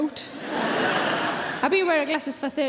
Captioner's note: audience laughing